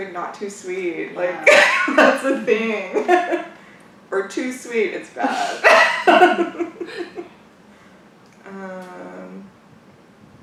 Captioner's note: laughs